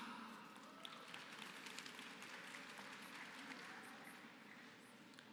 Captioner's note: applause